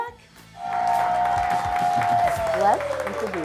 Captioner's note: contestants cheering